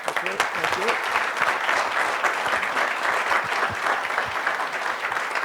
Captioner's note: applause